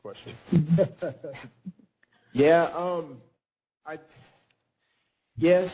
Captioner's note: laughing